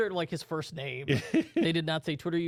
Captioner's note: laughs